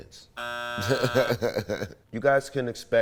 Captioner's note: buzzer rings; laughs